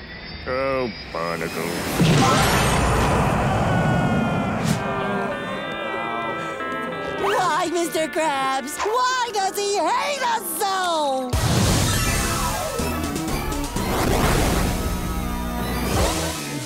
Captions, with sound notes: Oh, barnacles. [screaming] [groaning] Why, Mr. Krabs? Why does he hate us so?! [electronic music playing]